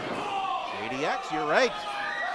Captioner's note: groans